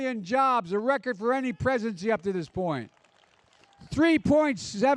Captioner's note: applause